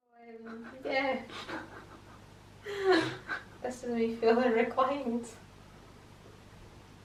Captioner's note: laughing